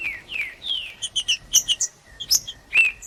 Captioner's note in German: trinca ferro cantando